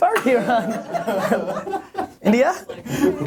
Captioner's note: laughter